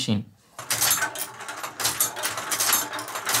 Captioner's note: a series of marble drops